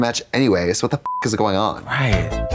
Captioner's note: beep